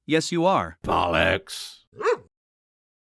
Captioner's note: bark